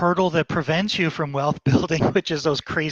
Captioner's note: giggling